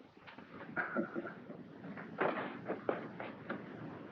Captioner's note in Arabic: هانك يضحك